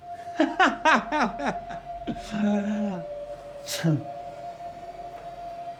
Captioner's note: brooding music continues; Johnny laughs